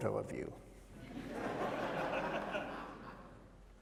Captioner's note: laughter